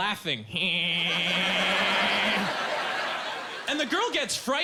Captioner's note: laughing strangely